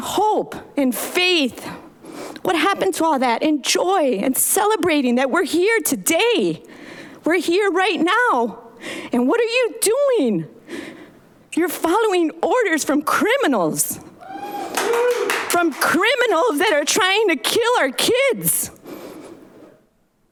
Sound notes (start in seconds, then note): 14.3 audience applauds